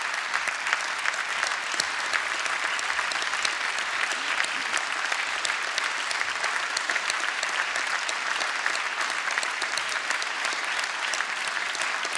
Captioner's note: applause